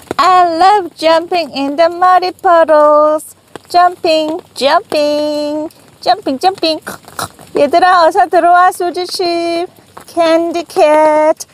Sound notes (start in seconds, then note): 6.8 snort snort